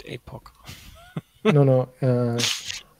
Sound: laughing

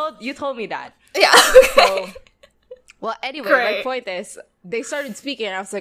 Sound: laughs

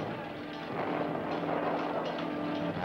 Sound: artillery exploding

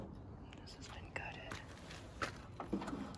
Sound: whispers

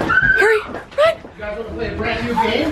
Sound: playful screaming

